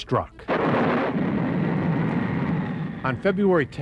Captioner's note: thunder